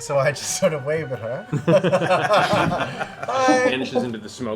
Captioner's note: laughter